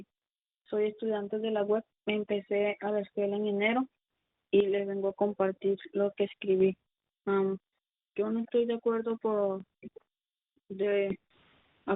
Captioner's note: speaking in spanish